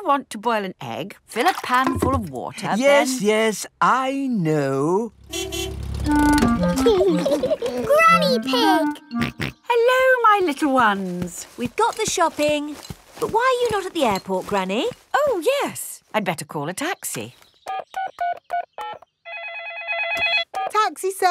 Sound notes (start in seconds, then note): 5.2 car honking; 6.7 laughing; 9.1 snorts; 19.2 phone ringing; 19.3 dialing